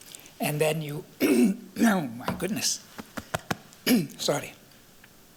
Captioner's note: clears throat